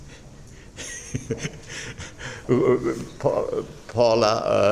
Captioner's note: laughing